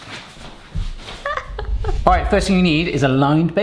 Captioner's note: laughing